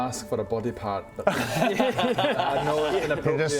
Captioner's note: bold laughter